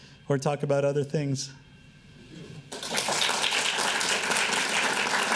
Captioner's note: applauding